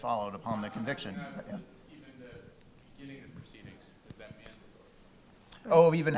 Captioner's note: crowd member mumbling